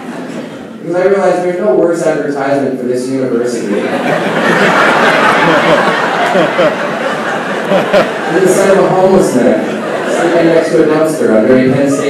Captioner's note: laughing